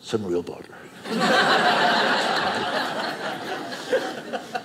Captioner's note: audience laughing